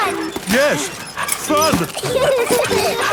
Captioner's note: straining; peppa and george laughing